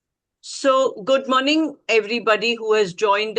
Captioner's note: Hindi